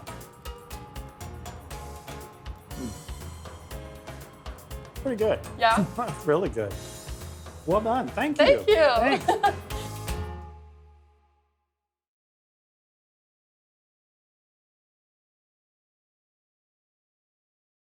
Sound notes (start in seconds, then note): 0.2 bright upbeat music; 8.5 giggling; 10.1 bright upbeat music ends